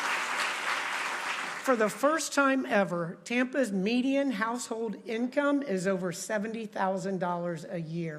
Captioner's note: applause